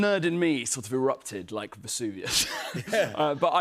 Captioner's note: both laugh